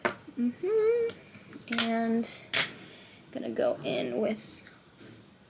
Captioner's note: humming